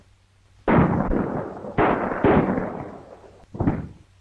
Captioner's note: guns firing